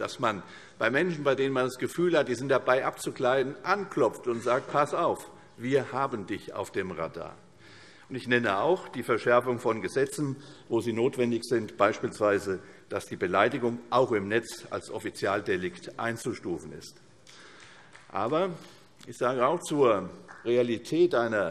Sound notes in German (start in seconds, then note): 17.5 Beifall